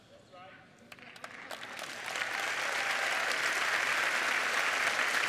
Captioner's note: cheers and applause